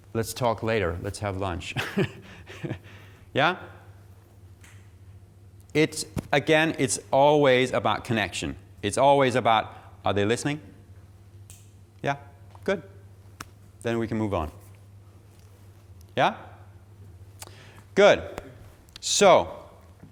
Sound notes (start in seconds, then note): 1.6 laughing